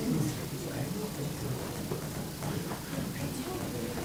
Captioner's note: crowd talking indistinctly